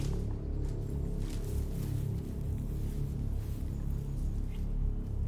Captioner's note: undergrowth crackles